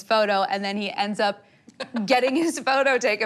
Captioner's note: laughing